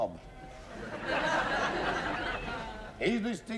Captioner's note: laughter